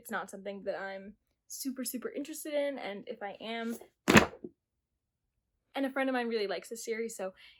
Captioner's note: book drops